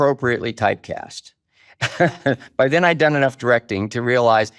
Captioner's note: chuckles